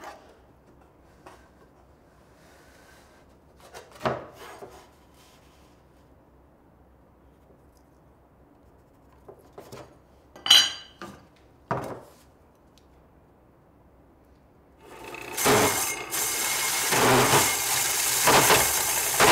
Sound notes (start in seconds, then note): 10.4 ruler clattering; 14.9 tool rasping